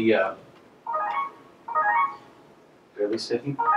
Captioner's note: phone chiming